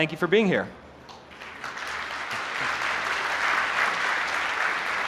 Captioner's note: applause